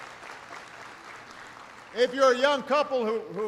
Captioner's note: applause